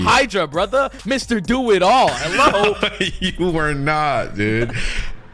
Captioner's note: laughs